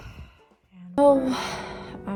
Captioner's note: many sighs